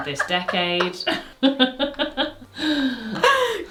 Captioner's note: both laugh